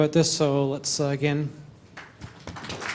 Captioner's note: applause